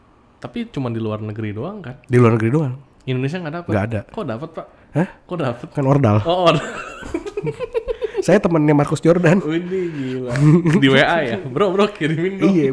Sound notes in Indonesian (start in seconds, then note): 6.5 ketawa